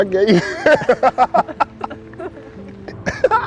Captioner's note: laughing